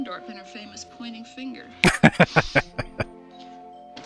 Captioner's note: laughing